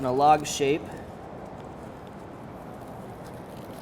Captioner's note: crinkling